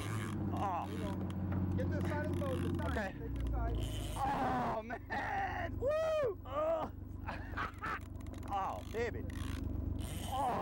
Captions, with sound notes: get to the side of the boat Ok! ah! man.. whoa! [laughter] oh baby ah!